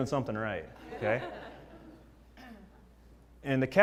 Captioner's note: laugh